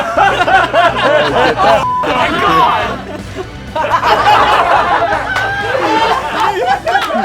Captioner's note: laughing